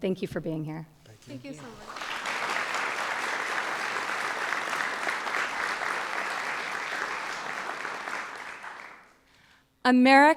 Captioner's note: applause